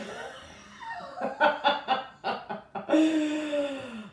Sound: both laughing

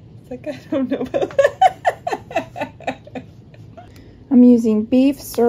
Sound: laughing

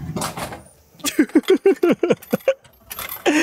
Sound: laugh

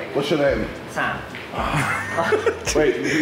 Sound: JJ sighs

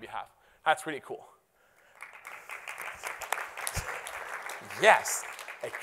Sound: applause

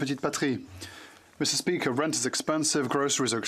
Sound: speaking French

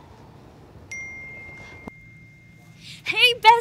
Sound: phone dinging

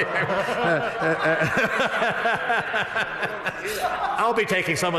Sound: laughter

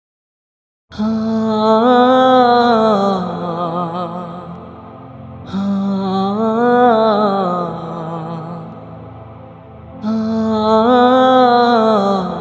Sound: humming

